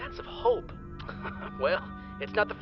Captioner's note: chuckles